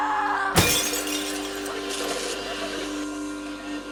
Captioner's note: glass breaks